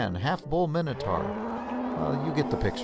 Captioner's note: sound: a bull roaring